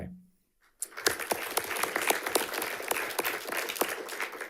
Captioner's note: audience applauding